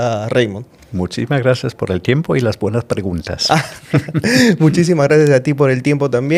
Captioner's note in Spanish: risas